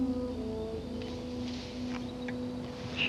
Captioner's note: leaves rustle